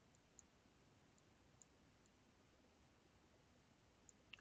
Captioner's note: mouse clicking